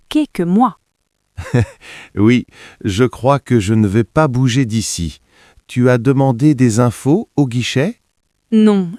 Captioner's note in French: rire